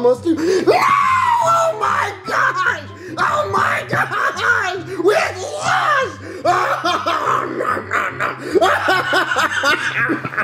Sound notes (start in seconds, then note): 6.6 hysterically crying